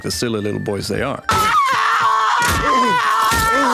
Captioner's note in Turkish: çığlık